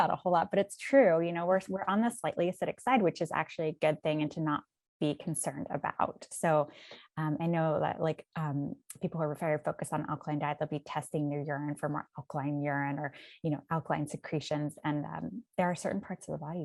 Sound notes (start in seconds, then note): none